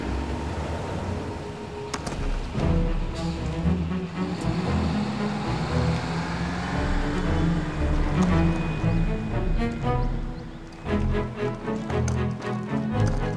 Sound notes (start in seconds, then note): 2.5 upbeat music; 5.0 engine rumbling